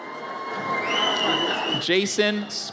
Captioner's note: audience cheers